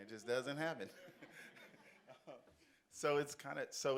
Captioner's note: audience laughs